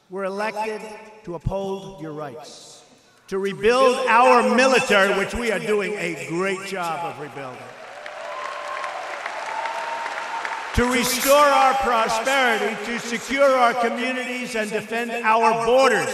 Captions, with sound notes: were elected to uphold your rights; to rebuild our military, which we are doing a great rebuilding -- (Applause.) -- to restore our prosperity; to secure our communities and defend our borders.